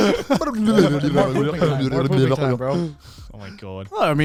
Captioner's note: mumbling